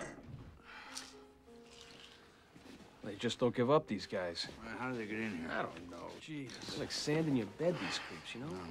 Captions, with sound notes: [ Sighing ] They just don't give up, these guys. How did they get in here ? I don't know. They're like sand in your bed, these creeps, you know ?